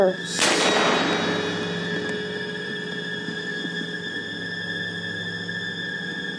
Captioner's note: dramatic music; gunshot pops